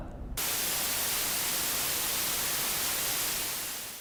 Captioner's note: static noise